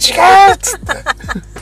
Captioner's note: laughs